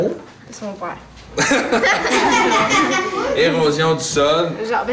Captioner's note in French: rires